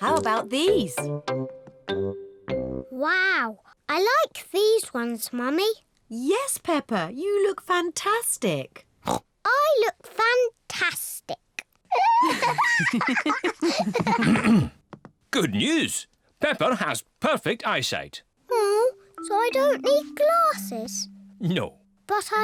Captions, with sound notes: How about these? Wow! I like these ones, Mummy. -Yes, Peppa, you look fantastic! -(SNORTS) I look fantastic! (BOTH LAUGH) Ahem! Good news! Peppa has perfect eyesight! -Oh! So I don't need glasses? -No.